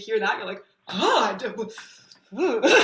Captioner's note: shudders